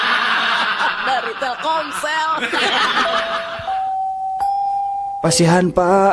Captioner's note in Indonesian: tertawa